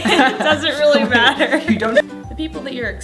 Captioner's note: laughter